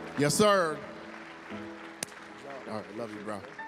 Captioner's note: applause